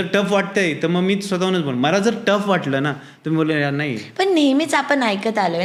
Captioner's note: rambling